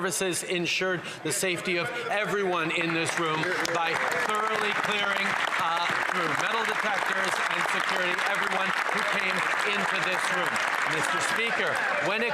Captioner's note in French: voix de l'interprète